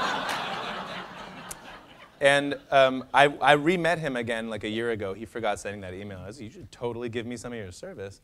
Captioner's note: laughter